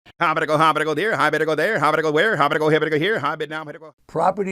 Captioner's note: auctioneer chattering